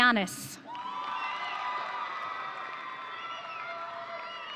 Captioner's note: audience cheering